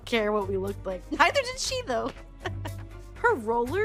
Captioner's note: laughing